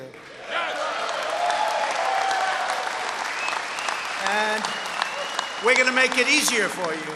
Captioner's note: applause